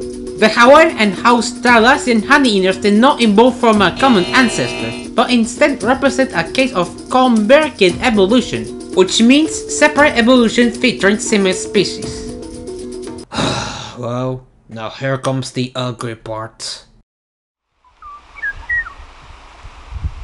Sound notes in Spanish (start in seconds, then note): 13.3 Suspiro